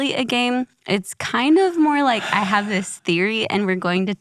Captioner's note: sighs